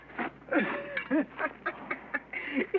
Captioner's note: laughing